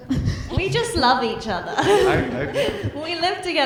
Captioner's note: chuckles